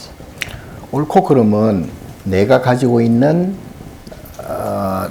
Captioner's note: speaking Korean